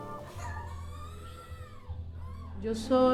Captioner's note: crying